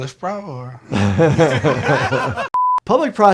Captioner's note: all laughing